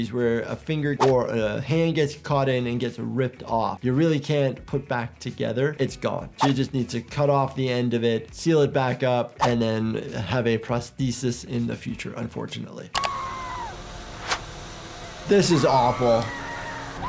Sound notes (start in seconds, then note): 13.0 mouse clicks; 13.0 victim 1 screaming